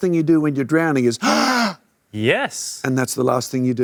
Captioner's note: gasps deeply